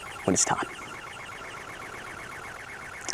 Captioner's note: birds chirping